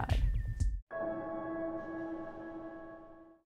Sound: electronic chime

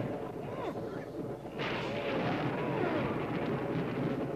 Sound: people grunting

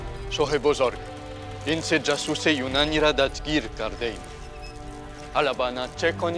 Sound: Persian speaking in foreign language

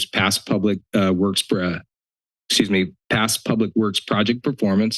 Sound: stutters

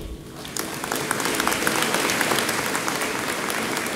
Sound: audience applauds

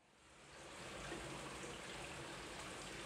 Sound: water gurgling

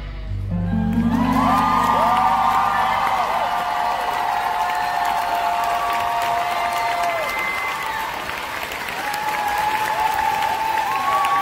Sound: audience claps & cheers

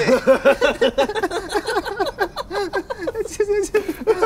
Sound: laughter

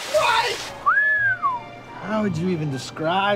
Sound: whistle

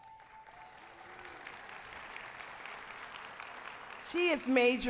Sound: applause

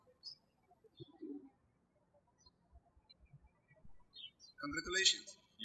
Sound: birds chirping

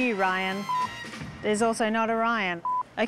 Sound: beep

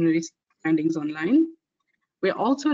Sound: audio static

